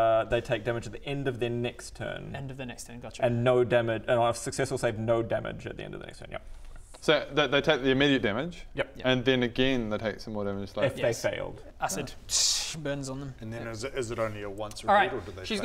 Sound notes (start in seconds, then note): 12.1 tssssh